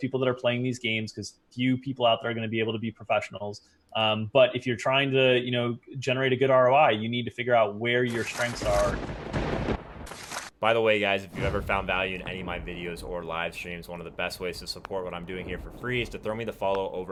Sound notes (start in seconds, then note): 8.8 lightning striking